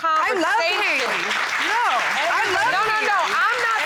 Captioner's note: audience applauds